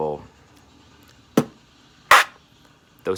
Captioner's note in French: beatbox